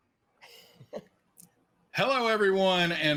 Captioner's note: giggles